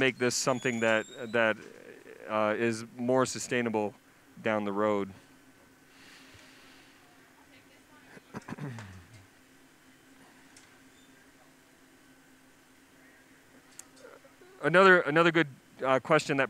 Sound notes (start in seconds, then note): 5.1 pause; 8.4 clears throat